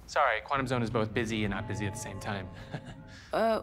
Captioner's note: chuckles